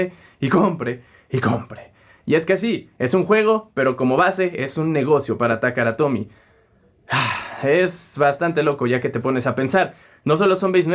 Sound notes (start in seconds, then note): 7.0 sighs